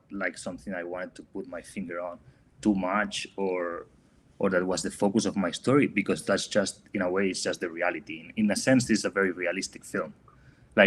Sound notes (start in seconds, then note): none